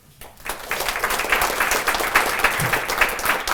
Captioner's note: applause